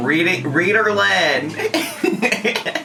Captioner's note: laughing